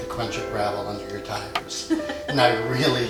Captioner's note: laughs